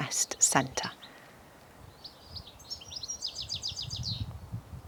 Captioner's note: birds chirping